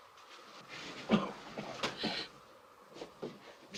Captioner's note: Joss coughs